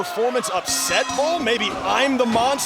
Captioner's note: bell ringing